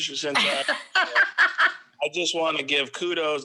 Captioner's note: laughs